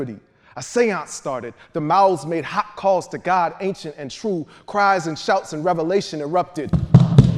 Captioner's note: feet stomping